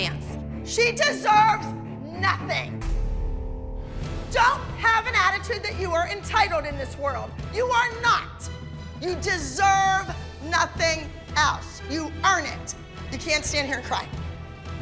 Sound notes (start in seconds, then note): none